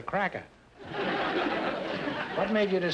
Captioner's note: audience laughter